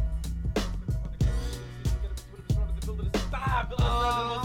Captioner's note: raps softly